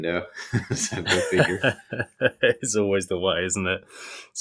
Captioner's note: laughing